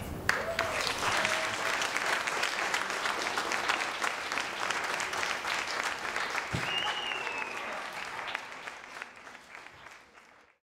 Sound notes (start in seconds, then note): 0.2 applauding and cheering; 6.5 whistling